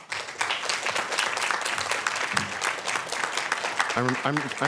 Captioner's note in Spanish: aplausos